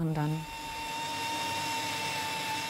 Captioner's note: machine whirring